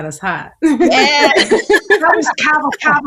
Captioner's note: everyone laughing